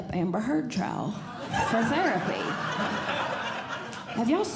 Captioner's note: audience Laughing